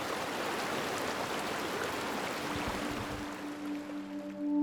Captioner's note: water splashing, dripping